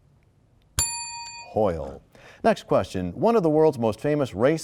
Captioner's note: bell rings, time expires